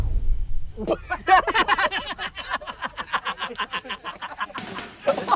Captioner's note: Laughing